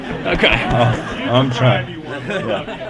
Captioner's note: laughter